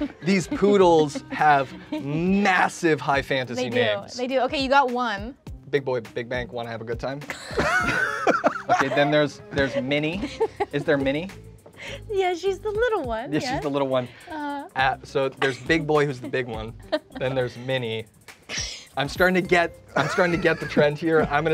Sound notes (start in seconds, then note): 7.3 all laughing